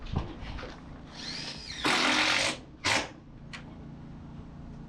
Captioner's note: drill running